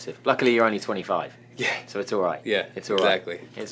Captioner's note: laughs